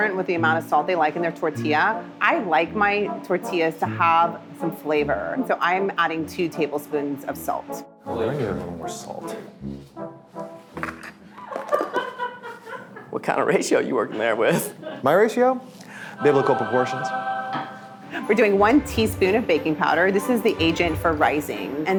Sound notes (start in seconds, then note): 11.4 camera crew laughing; 16.0 angelic music